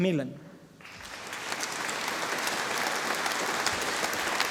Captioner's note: audience applauding